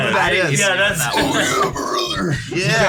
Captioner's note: Hulk Hogan voice